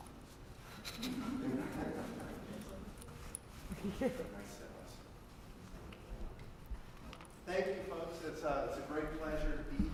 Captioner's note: laugh